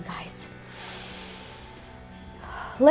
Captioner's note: inhales and exhales